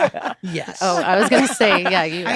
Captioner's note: laughter